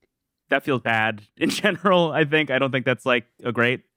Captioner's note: laughs